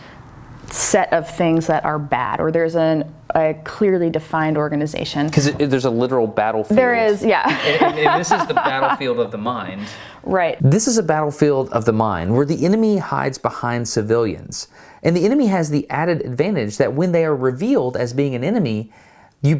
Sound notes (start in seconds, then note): 6.7 lady laughs